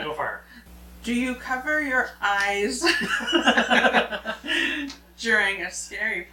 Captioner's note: both laughing